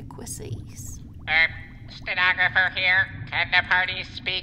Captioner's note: in nasal robot voice